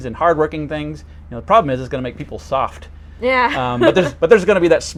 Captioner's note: chuckles